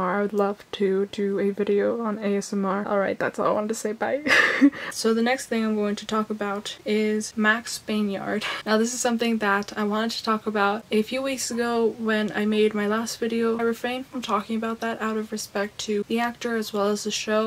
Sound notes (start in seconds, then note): 4.2 laughs; 7.8 laughs